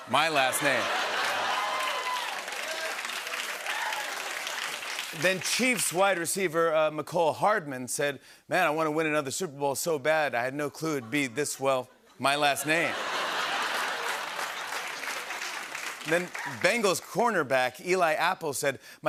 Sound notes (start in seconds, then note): 0.3 laughter, cheering, and applause; 12.6 laughter and applause